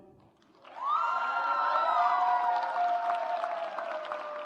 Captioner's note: audience applauds